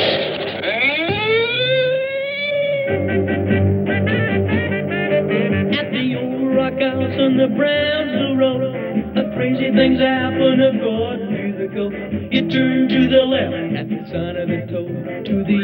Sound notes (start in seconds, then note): 0.5 sirens